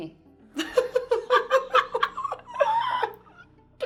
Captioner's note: laughing